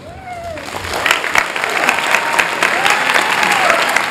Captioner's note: applause